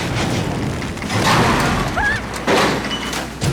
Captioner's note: thud